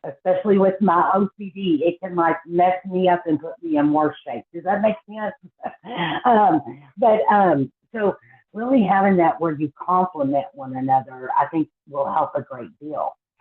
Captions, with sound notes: Especially with my OCD, it can mess me up and put me in worse shape. Does that make sense? (Laughs) So, really having that where you complement one another, I think will help a great deal.